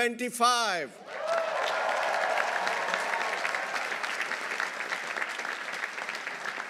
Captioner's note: audience cheering; audience applauding